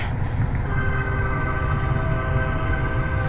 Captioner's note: train whistle